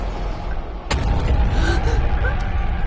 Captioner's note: gasping